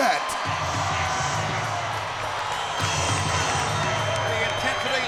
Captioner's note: spectators cheering; upbeat music